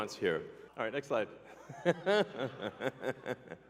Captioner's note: laughs